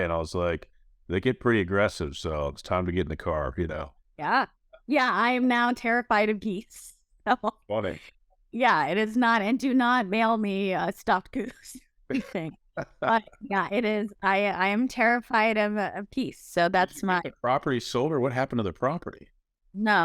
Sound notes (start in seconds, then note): 7.3 laughs; 12.8 laughs